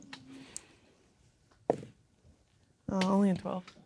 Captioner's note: dice rolling